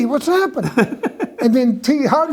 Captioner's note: laughs